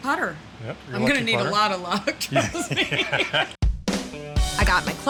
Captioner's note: laughing